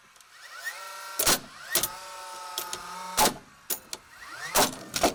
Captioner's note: nail gun popping